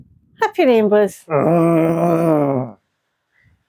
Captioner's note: bear Growls